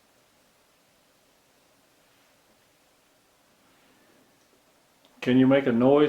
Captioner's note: silence